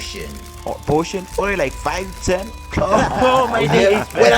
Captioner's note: laughs